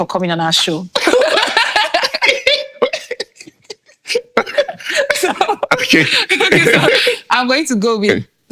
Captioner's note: laughing